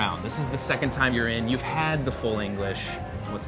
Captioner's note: none